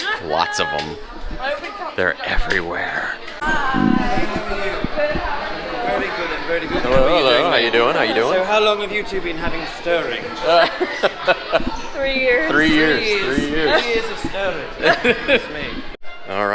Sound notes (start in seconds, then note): 1.4 laughs; 10.7 laughs; 14.7 laughs